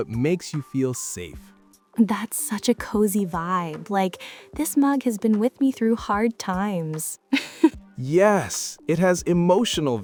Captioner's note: laughs